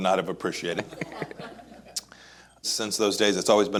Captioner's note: laughs